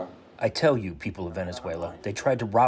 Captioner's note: through translator